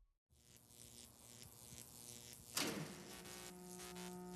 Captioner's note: electric buzzing